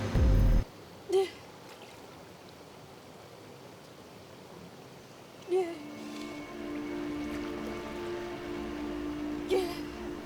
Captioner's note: soft crying